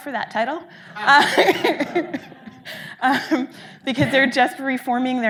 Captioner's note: audience laughing